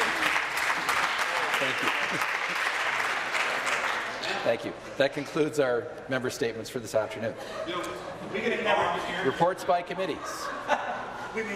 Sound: applause

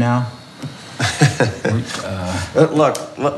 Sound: laughing

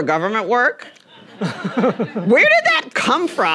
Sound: everyone chuckling

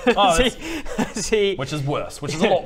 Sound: laughing

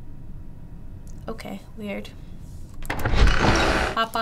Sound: door opening

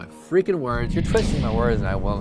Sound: thunderous boom

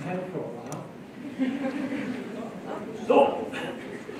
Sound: laughter

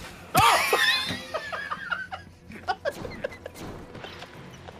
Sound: laughs

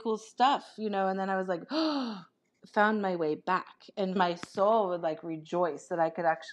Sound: gasp

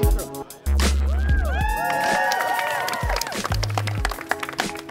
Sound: crowd cheers

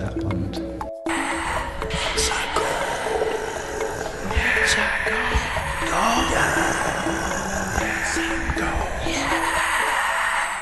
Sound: whispering

